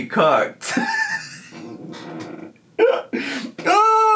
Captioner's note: laughing